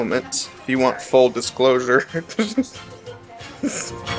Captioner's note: laughing